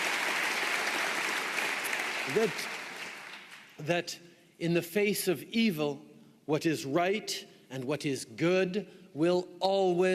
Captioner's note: applause